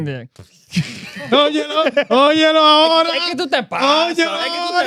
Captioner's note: laughing; speaking In Foreign Language